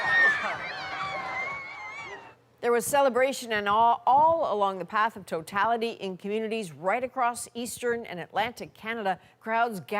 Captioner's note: cheers and Applause